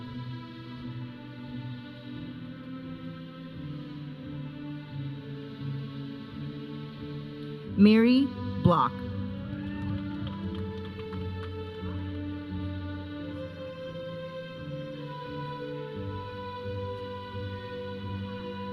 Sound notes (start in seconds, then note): 9.4 audience cheering; 12.1 processional music